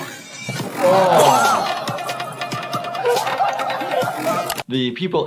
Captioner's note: laughing and exclaiming